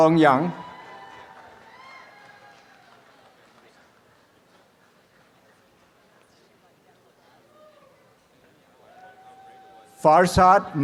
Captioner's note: audience applause